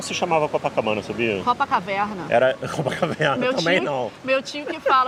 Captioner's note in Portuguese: rindo